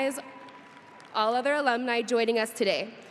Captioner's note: audience applauding